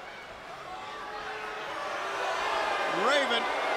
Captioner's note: crowd cheering